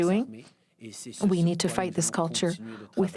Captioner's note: speaking french